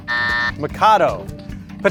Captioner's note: buzzer buzzing